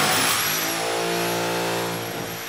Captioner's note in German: Bohrgeräusche halten an